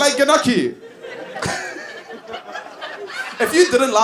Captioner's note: laughs